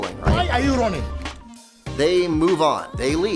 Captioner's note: male Voice